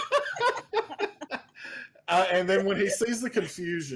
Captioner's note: everyone laughs